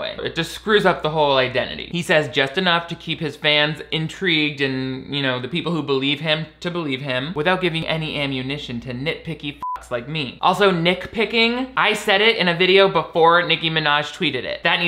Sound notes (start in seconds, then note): 9.6 beep